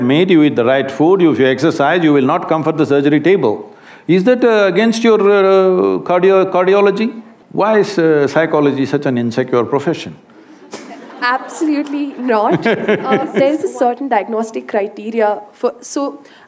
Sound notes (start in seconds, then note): 10.4 laughs; 12.4 Sadhguru laughs